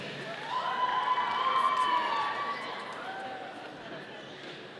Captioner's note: audience cheering